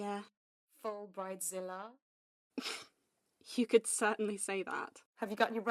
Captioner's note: Lily snorts